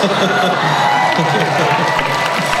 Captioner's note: cheering